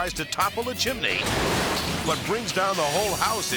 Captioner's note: bricks smashing